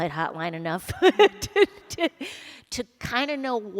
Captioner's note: laughter